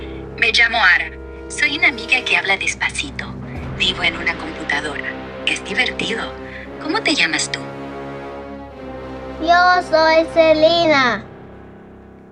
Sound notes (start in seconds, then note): 0.8 speaking Spanish